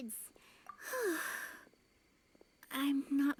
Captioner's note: sighs